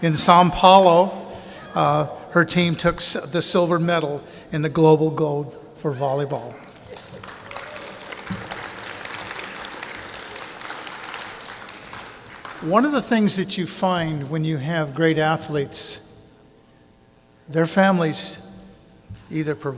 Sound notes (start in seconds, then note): 6.6 clapping